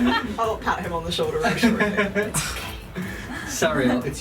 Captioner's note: laughter; stage whispering